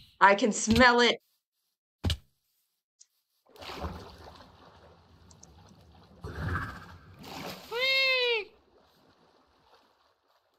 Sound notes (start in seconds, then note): 7.8 makes a weird noise between a "woo" and a "meow"